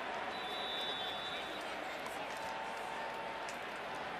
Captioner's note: whistles